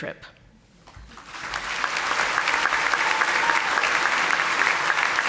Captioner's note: audience applauding